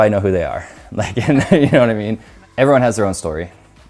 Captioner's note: laughter